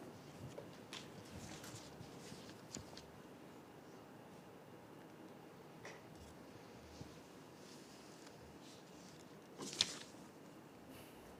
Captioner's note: paper rustling